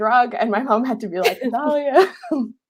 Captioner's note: laughing